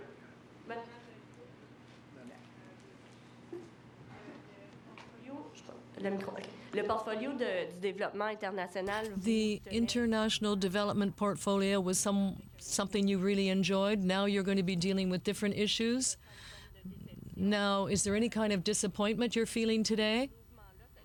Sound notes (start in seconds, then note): 13.5 speaking french